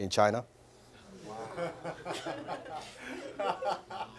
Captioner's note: audience laughter